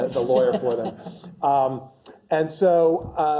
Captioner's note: laugh